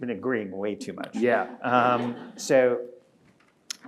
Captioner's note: audience laughing